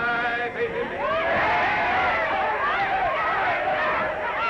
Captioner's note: all cheering